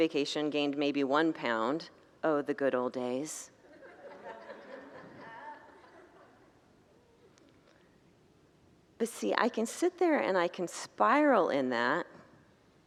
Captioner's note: congregants laugh